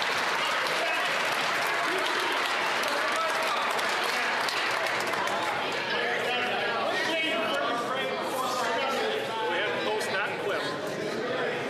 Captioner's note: some Applause